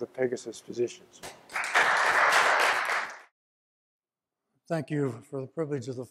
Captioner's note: applause